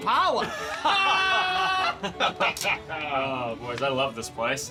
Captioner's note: men laughing